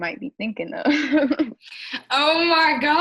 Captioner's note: chuckles